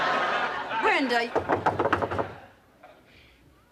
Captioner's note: knocking on door